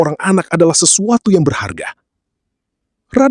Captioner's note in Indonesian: none